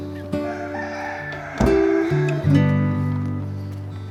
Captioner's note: cockerel crows; peaceful music